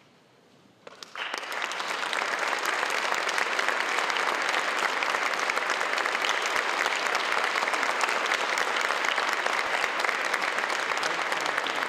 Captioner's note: applause